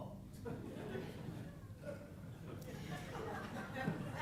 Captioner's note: audience chuckling